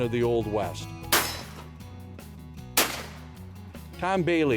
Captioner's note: gun shots